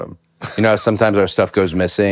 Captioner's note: Finn laughs